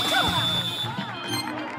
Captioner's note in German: Applaus